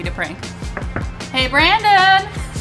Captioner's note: knocks